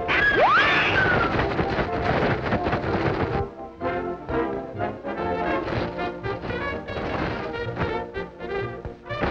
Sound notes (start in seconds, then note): 2.5 ice rattles; 5.5 frantic orchestra music